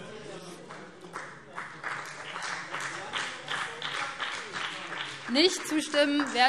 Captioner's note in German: Beifall BÜNDNIS 90/DIE GRÜNEN